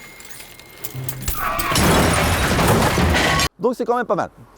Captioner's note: crash noise